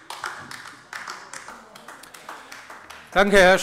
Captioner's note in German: Beifall bei der LINKEN